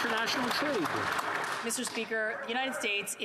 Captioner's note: some Applause